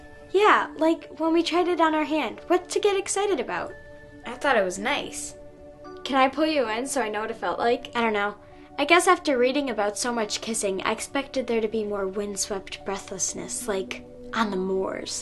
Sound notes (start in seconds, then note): none